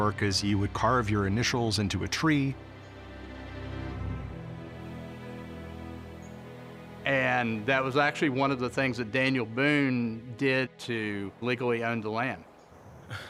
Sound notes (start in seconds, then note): none